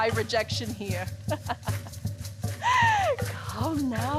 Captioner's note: Medea laughs